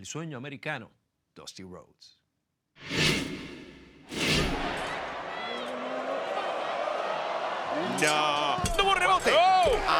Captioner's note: applause